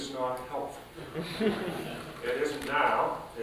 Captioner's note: chuckling